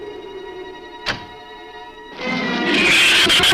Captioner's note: suspenseful orchestral music; door closes; shrews screech